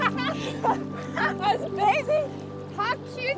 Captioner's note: laugh